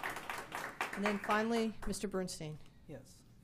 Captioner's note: applause